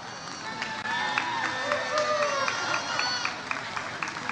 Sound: audience cheers

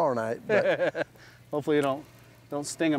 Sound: laughs

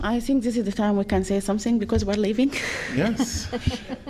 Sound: laughter

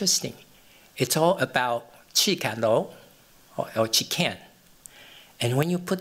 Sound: non-english

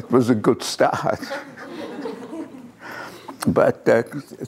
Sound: laughter

